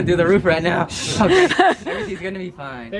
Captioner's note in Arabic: يضحك